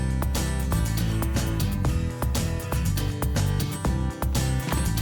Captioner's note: voiceover